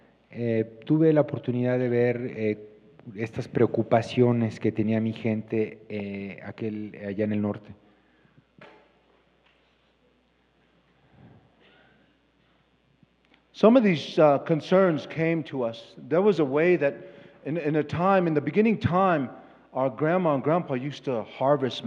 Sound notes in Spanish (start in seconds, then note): 10.4 Expositor habla en inglés